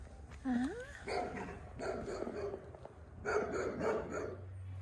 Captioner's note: dogs bark